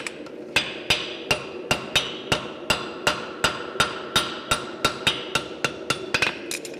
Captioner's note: sharp metallic hammering